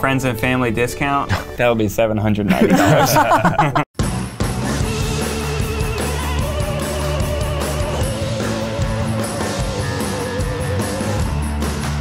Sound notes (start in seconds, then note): 2.5 laughing; 4.0 upbeat music